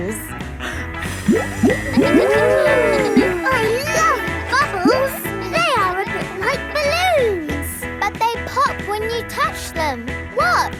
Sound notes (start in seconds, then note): 2.6 kids gasping and laughing